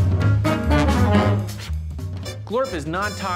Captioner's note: blows